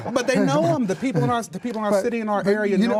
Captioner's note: laughter